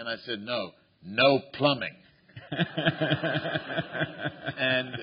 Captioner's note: laughter